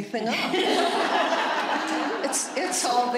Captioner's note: laughter